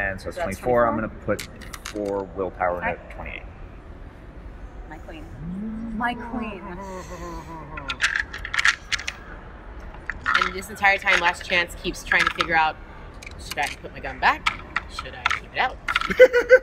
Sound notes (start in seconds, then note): 7.8 dice rattling